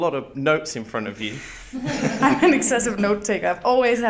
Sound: guests laughing

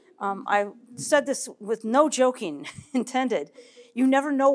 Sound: laughs

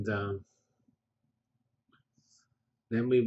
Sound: pause

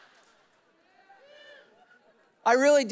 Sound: congregation laughing; people whooping

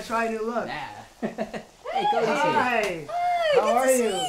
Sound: laughing

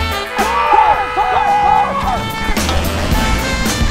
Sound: horn honking

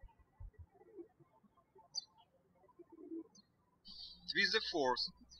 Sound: birds chirping

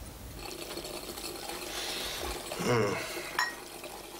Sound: water boiling

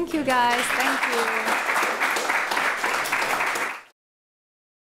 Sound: applause

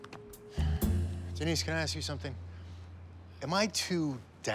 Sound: sighs

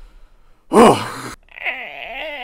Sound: wheeze

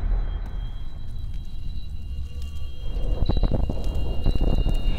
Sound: high-pitched ringing

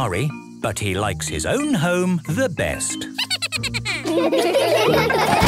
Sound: Steven giggles

